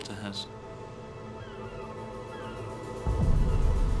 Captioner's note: seagulls squawking